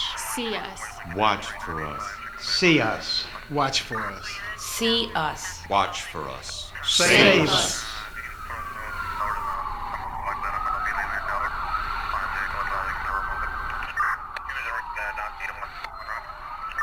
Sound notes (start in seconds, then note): 8.0 police radio chatter; 8.0 sirens wailing